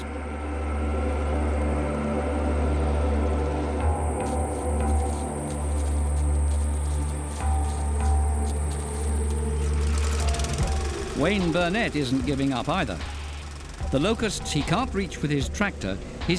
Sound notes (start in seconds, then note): 0.2 ominous music; 3.9 locusts chirping; 9.9 motor rumbling